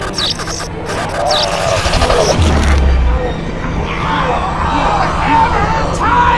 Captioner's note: lights buzzing; flesh crunching; vampire growling